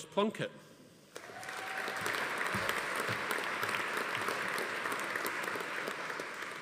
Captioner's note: audience applauding; attendee cheering